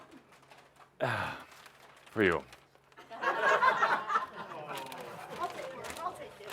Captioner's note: laughter as he offers the gold wrapping paper but she doesn’t take it